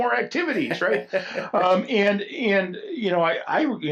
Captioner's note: laughs